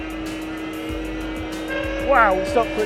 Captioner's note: engine revving